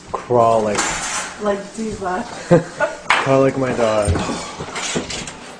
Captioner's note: laughs